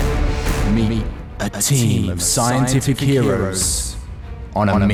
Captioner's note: dramatic music plays; echoes